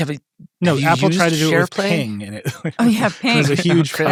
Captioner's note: laughs